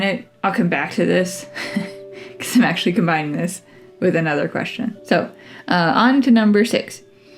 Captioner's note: laugh